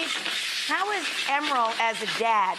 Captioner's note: sizzling pan